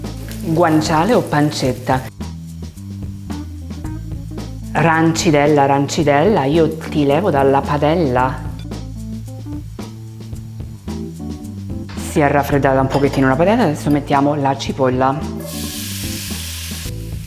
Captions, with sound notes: We reduce the sauce a little bit while the pasta is cooking and then we combine everything just as usual. (speaking in foreign language) (speaking foreign language)